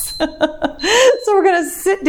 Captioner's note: timer beeps